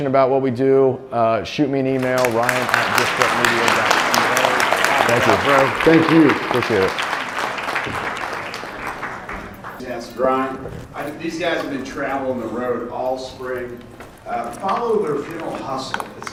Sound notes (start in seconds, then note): 4.2 audience applauds